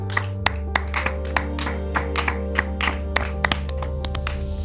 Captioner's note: everyone applauding